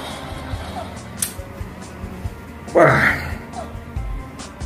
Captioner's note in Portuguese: Respiração de Estresse kk